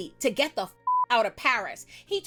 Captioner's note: beep